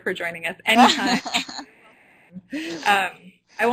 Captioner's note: laughing